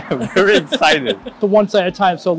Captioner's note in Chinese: 笑声